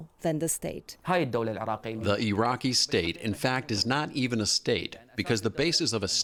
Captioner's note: through translator